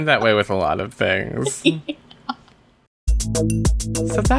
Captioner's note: laughs